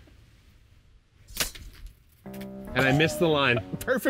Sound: machete slices

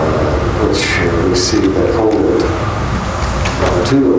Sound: mutters

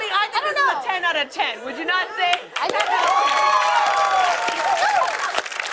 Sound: cheers and applause

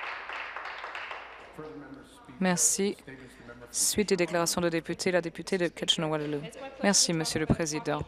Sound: applause

